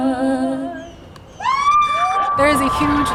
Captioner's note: crowd Cheering